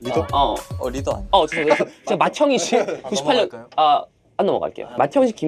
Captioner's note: beep - he's lacking attention